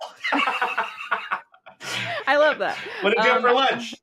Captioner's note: laughter